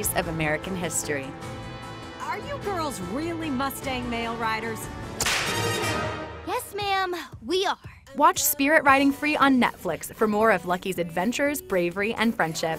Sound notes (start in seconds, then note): 5.2 whip cracking; 5.2 heroic music